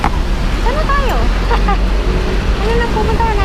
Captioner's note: laughs